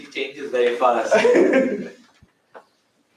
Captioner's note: laughter